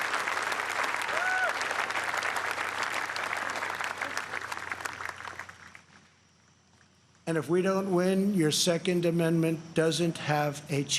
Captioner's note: applause